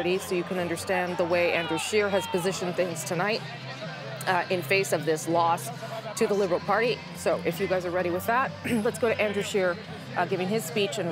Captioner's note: cheers and applause